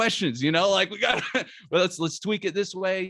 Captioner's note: chuckles